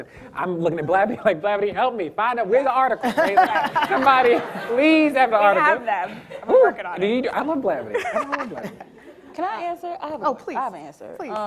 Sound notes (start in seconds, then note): 3.0 audience laughing